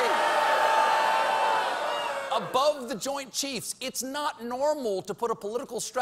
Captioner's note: audience reacts